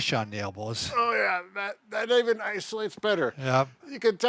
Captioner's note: grunts